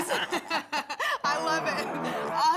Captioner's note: laughter